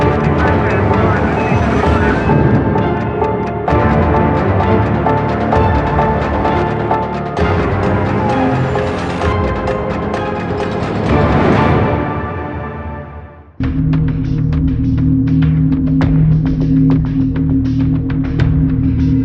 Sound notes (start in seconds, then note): 0.1 radio chatter, sirens wailing; 3.3 clock ticking